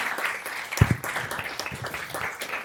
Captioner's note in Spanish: Aplausos y aplausos